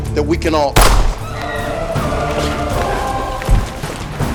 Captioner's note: shot fired